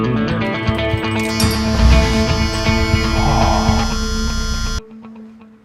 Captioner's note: instrumental music; engine starts